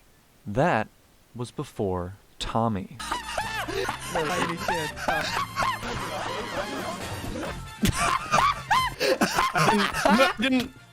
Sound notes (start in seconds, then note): 3.0 two-pronged laugh; 5.7 two-pronged laugh x9